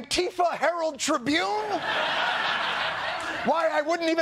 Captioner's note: laughter